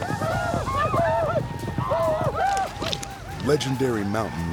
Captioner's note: whooping